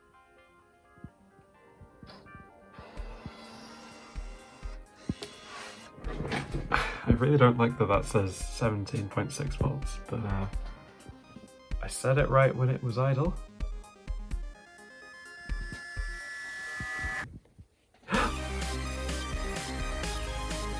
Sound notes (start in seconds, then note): 2.7 disc drive whirring; 18.2 crescendo, and a short gasp